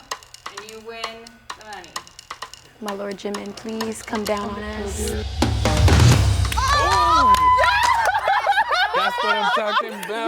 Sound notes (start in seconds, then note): 6.5 cheerings